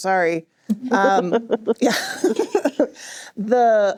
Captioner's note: chuckling